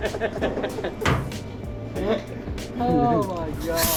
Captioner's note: laughing